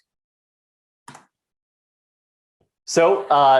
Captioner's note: keyboard clicks